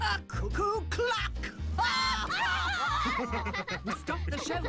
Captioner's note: laughing